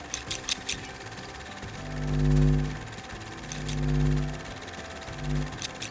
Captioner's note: film reel clicking; upbeat music; electricity humming; scissors clacking